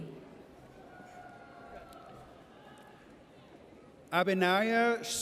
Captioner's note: audience cheers